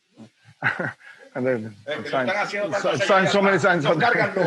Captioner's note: chatter and laughing